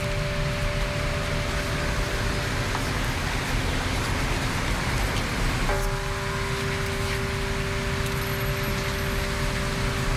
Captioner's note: bell tolling